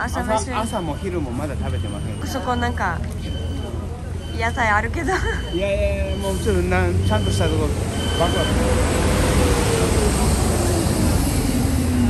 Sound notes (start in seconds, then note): 5.0 laughs